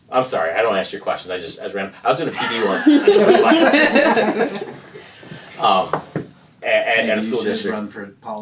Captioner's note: laughter